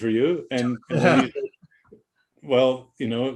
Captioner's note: laughing